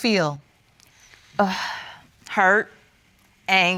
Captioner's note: sighs